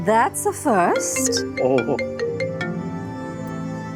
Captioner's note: mobile ringing